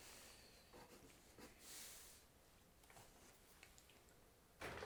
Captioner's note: pencil scratching